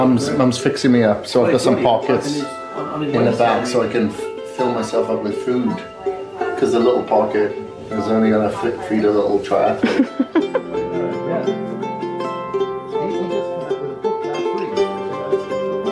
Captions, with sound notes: - Mum's fixing me up, so I put some pockets in the back so I can fill myself up with food. 'Cause a little pocket was only going to feed a little triathlete. (laughing) (light music)